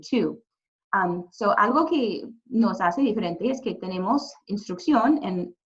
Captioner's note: speaking Spanish